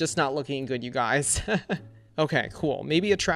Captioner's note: laughs